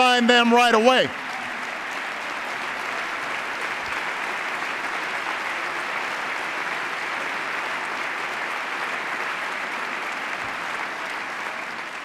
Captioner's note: applause